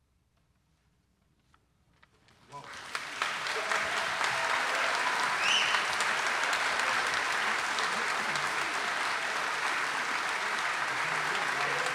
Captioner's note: audience cheering and applauding